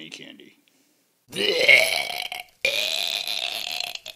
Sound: being-sick noises

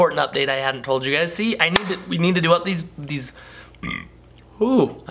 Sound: burps

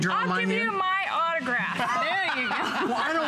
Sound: laughter

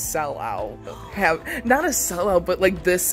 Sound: gasps

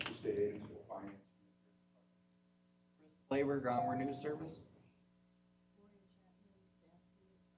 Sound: audio drops

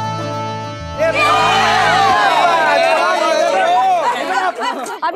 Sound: cheering

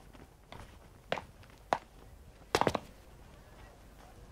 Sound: footsteps

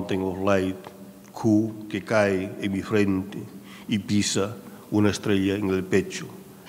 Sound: speaking in a foreign language

